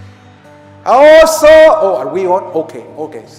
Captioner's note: yells